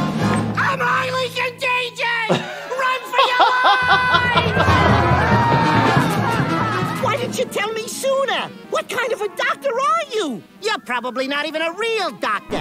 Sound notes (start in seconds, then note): 2.2 laughing; 3.0 people screaming